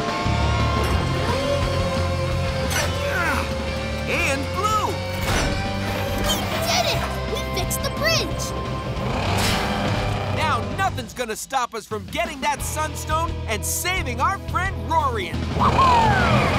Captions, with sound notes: [grunting] And blue! We did it, we fixed the bridge! Now nothing's going to stop us from getting that sun stone and saving our friend Roarian! Woo hoo!